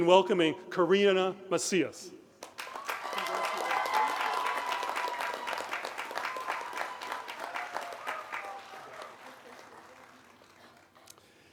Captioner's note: applause; cheering